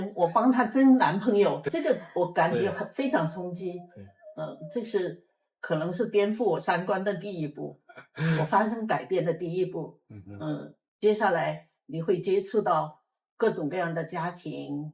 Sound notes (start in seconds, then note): 10.1 nonverbal grunt as interjection